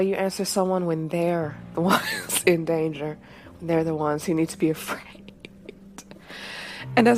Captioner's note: laughs